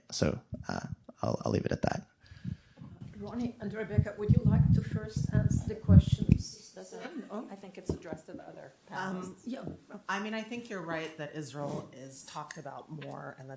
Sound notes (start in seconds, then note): 7.8 faintly speaking